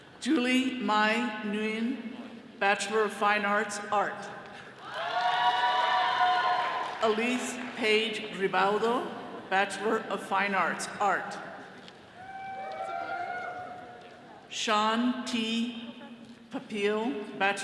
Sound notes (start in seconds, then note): 4.8 all cheering; 12.2 attendees cheering